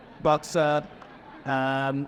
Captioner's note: audience laughing